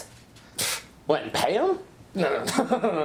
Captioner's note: scoffs